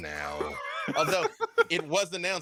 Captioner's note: laughs